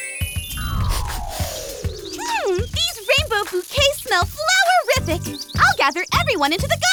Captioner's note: transition tones; sniffs